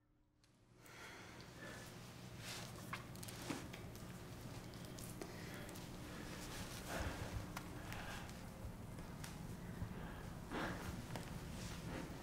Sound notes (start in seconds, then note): 5.3 clothes rustling